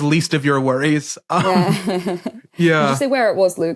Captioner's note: chuckles